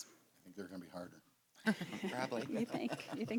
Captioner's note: laughter